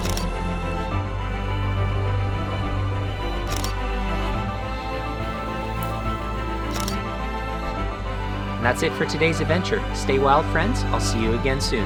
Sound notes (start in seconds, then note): 0.0 lively music; 0.0 camera shutter clicking; 2.4 lively music; 3.9 camera shutter clicking